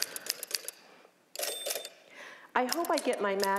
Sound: typewriter clacking; carriage bell dinging

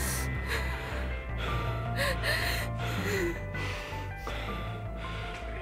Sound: gasping

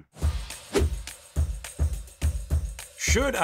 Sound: air whooshes

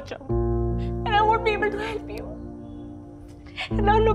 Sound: crying

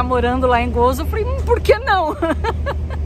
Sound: laughs

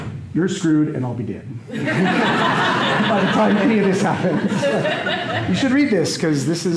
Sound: laughter

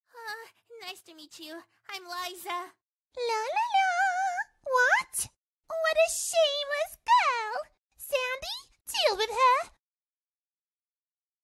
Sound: making happy sounds

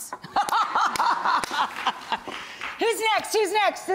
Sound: laughter

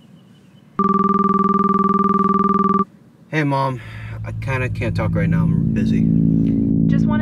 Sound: ringtone

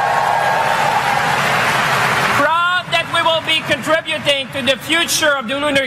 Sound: applause

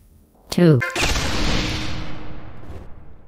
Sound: explosion

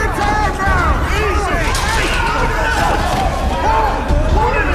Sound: yelling, thudding

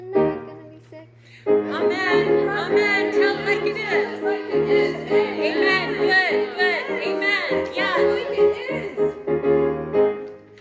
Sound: choir, spoken

